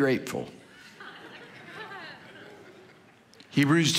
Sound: congregation laughing

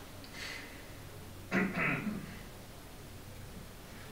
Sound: clears throat

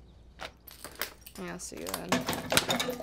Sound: glass cracks

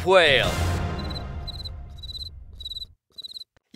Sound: crickets chirping

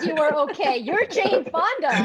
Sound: laugh

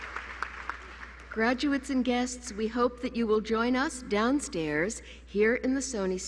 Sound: applause

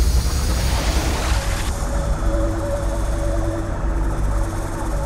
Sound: ominous music intensifying; electrical fizzling

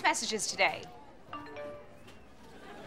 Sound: chiming

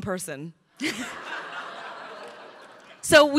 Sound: crowd laughing

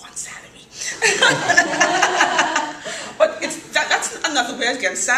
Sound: laughter

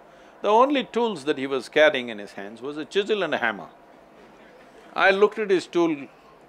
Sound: none

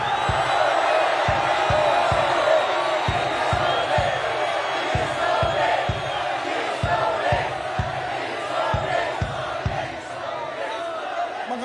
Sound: crowd chants: "Return it!"

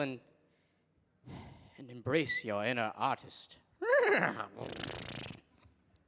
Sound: sighs; neighs

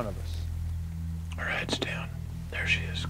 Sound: whispering

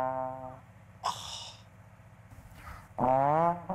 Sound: gasps

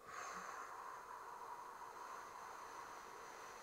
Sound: exhaling slowly

